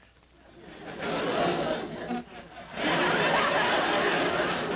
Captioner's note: audience laughing